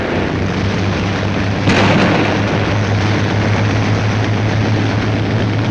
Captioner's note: landing craft rumbling